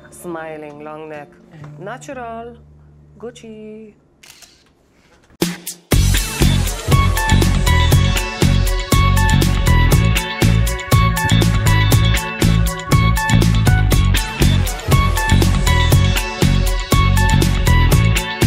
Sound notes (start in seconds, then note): 4.2 camera clicking